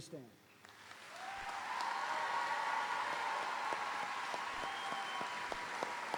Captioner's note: audience applauding; audience cheering